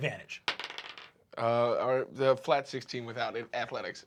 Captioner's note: rolls dice